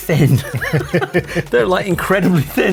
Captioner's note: laughs